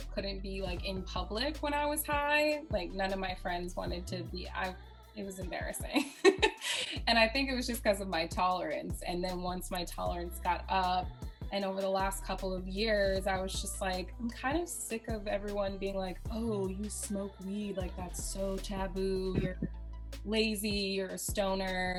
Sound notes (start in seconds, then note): 6.0 laughs